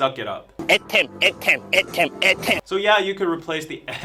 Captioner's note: someone in a penguin costume saying "ahem" repeatedly